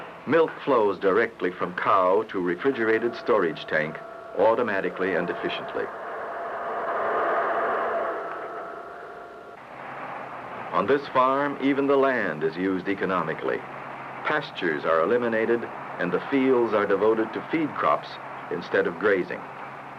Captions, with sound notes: Milk flows directly from cow to refrigerated storage tank, automatically and efficiently. *machinery whooshing* On this farm, even the land is used economically. Pastures are eliminated, and the fields are devoted to feed crops instead of grazing.